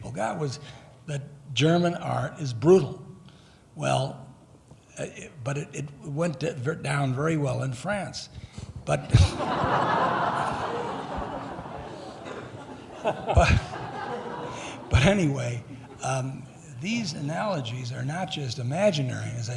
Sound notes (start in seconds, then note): 8.8 laughing